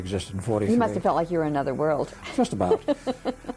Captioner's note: laughs